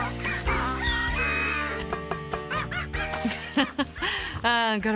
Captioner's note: animals bark, crow to the tune